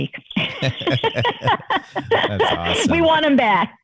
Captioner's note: laughter